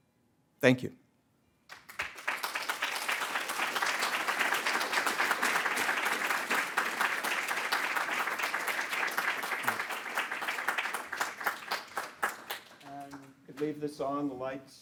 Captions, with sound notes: Thank you. (audience applauding) And could leave this on.